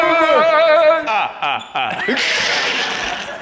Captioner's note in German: böses Lachen